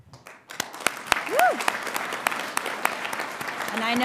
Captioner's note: audience applauding